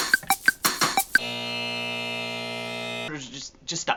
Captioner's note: buzzer